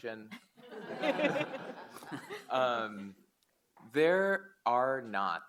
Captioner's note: audience laugh